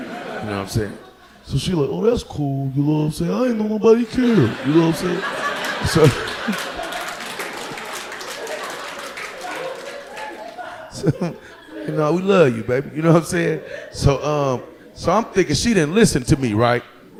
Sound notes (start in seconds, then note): 6.2 audience laughing